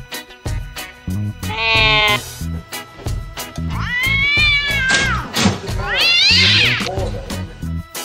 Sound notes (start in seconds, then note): 1.4 ginger and white Cat Yowling; 3.7 Black Cat yowling